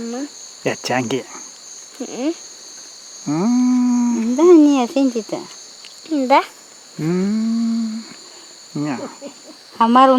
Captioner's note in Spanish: m m!